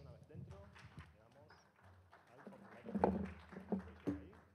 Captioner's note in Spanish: aplausos